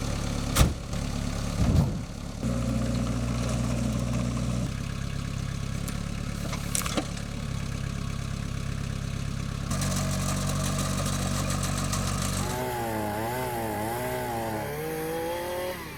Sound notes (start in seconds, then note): 0.5 trunk slamming; 1.3 log crashing; 3.0 engine rumbling; 6.6 log crashing; 8.0 engine rumbling; 12.2 chainsaw whirring